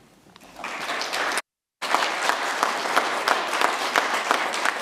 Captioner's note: audience applauds